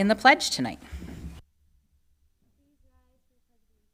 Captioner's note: silence